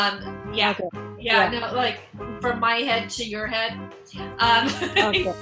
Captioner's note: laughs